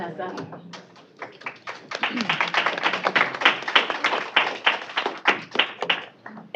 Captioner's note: applause